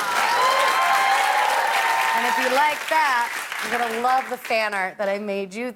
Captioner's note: cheers and applause